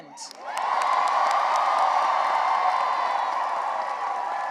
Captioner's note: cheering and applause